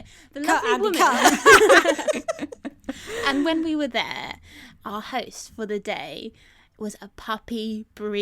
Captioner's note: all laugh